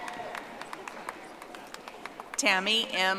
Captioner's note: audience applauding